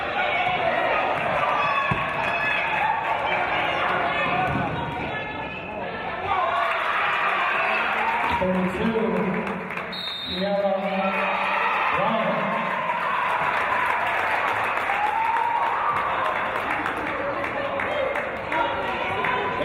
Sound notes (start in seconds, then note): 6.7 applause and cheers; 9.9 referee's whistle; 12.7 applause and cheers